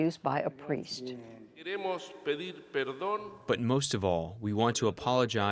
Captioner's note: through translator